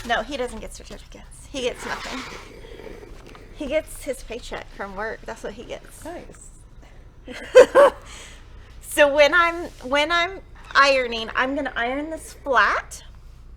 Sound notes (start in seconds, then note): 7.2 jolly laughs